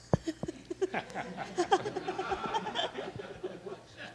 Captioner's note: laughter